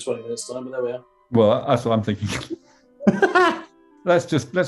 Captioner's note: laughing